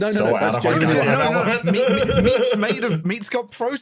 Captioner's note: laughter